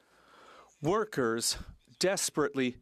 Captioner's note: speaking French